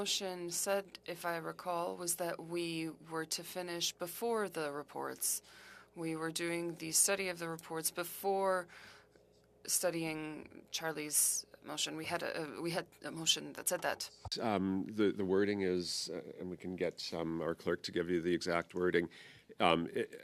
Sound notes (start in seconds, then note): 3.8 speaking french